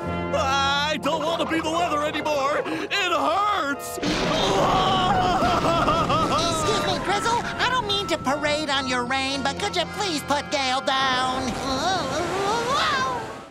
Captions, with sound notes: I don't want to be the weather anymore. It hurts. [crying] Excuse me, Drizzle. I don't mean to parade on your rain but could you please put Gale down? Whoa!